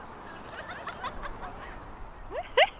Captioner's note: high-pitch laughter